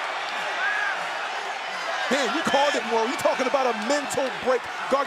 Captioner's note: cheers and applause